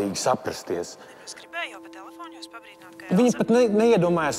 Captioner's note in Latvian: Zanes balss telefonā